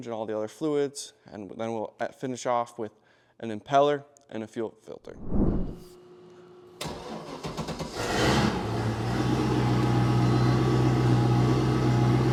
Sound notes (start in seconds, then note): 8.3 engine running